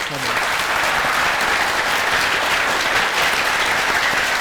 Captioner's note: applause